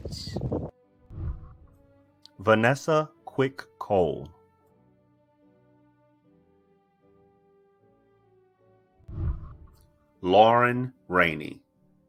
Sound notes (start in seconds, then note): 1.1 whooshing; 5.4 celebratory music; 9.0 whooshing